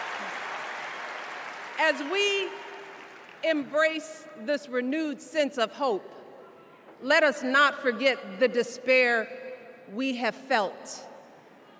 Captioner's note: cheers and applause